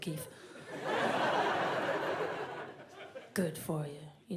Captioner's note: audience laughs